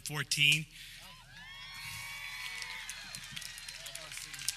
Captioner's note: audience cheers